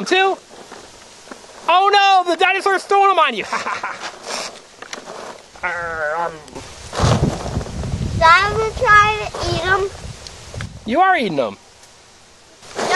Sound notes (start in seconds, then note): 0.0 voiceover; 3.4 chuckling; 8.6 voiceover